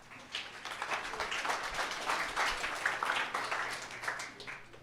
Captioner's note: applause